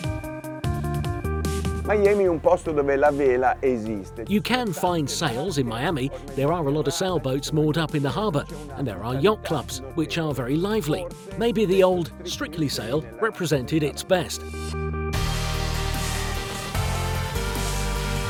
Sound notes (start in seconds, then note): 2.1 in foreign language; 15.3 upbeat music